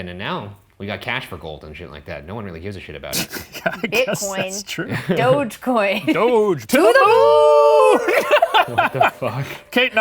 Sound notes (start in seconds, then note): 3.2 laughing; 7.8 laughing